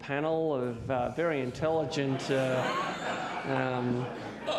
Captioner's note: audience laughs